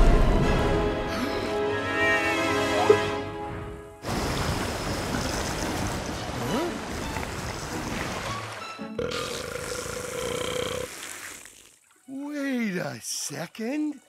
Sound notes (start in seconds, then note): 0.5 gasps and whimpers; 8.9 burps